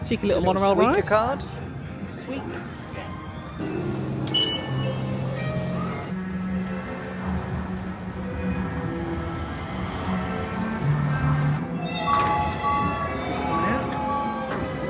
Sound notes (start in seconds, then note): 4.3 phone beeping; 7.8 light music; 11.8 alert ringing